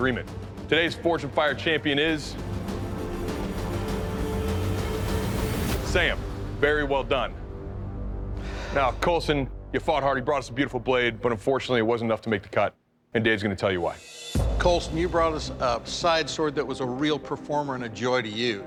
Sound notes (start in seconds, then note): 2.4 dramatic music; 8.3 exhales deeply